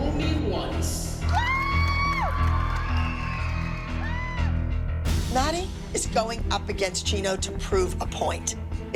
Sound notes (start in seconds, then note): 1.3 screaming